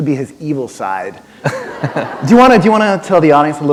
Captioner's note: laughter